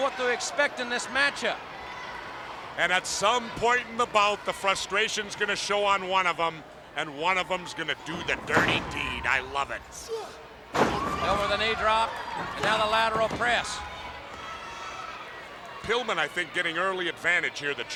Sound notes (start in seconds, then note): 7.9 wrestlers grunting; 10.7 body thudding; 12.3 hands thudding